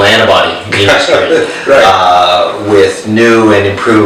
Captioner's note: laughs